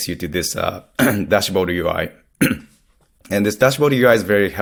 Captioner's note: clears throat